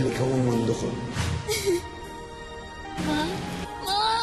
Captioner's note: sobs